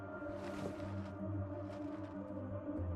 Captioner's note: curtain rustling